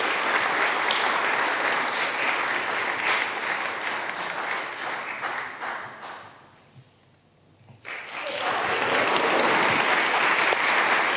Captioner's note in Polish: oklaski